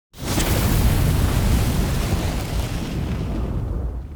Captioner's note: flames roaring